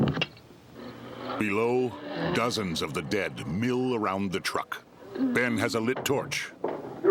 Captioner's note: guttural moaning